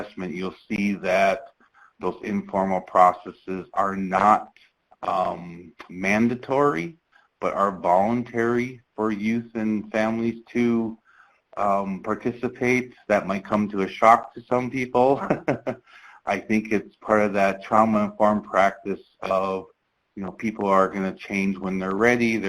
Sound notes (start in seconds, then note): 15.0 chuckles